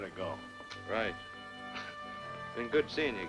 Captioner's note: chuckles